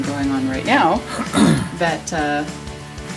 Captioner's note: clears throat